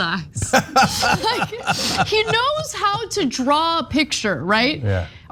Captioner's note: laugh